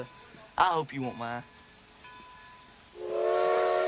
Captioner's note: bell Rings; train Whistle Blows